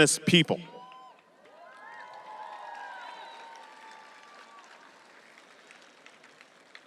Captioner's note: audience cheering and applauding